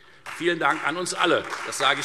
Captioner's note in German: Beifall Freie Demokraten und vereinzelt CDU